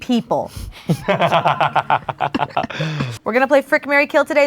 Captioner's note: group laughs